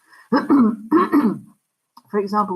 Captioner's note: clears throat